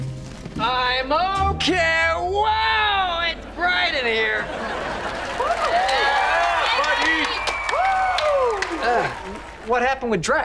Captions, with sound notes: I'm okay. Wow! It's bright in here. [cheering] What happened with Drex?